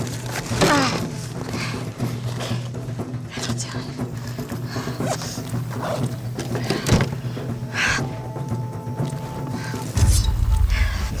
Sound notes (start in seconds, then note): 0.3 grunts; 4.1 zippers close